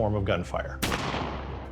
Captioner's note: gunshot